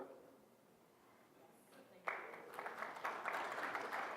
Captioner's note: applause